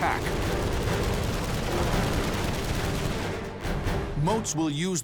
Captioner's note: gunfire